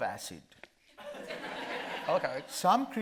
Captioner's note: audience laughing